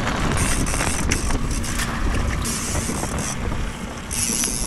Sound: reel clicking

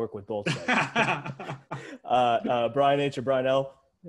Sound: both laughing

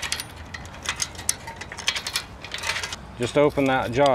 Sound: chain jangling

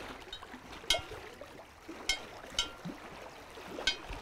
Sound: spoon clanking

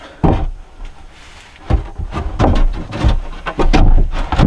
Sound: boards clattering

